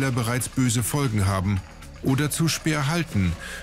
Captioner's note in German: Applaus